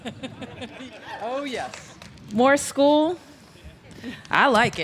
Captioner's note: laughter